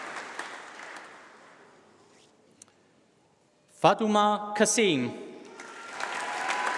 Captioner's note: applause